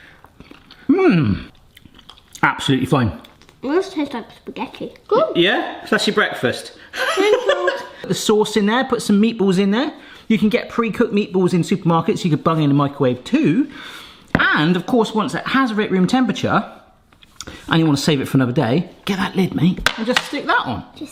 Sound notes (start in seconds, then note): 7.0 laughs